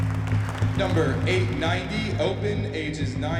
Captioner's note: host on mic